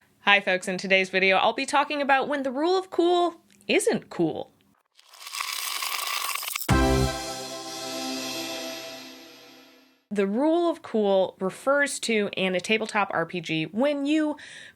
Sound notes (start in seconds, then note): 5.0 dice rolling